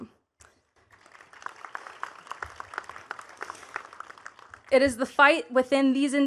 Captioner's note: attendees clapping